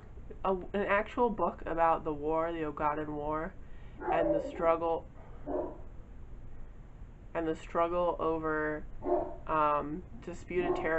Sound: dog starts barking

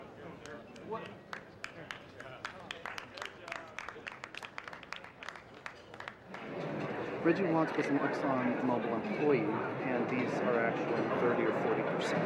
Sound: scattered applause

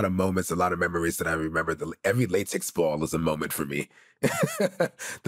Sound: laughs

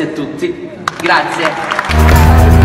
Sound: applause; 126 GPA revving hard

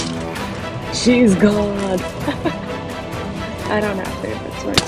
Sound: laughs

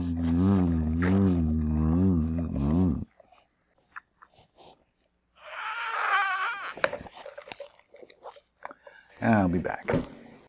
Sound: straw squealing

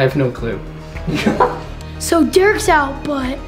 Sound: laughs

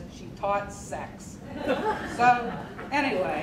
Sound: crowd laughing

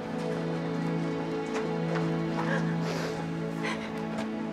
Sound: crying

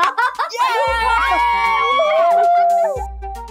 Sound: cheers

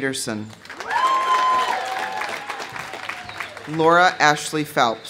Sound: audience applauding; audience cheering

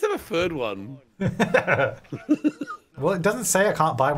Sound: laughing

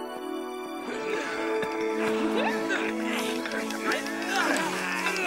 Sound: grunting

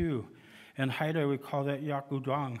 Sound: speaking indigenous language

